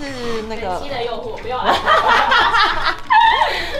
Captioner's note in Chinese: 笑爆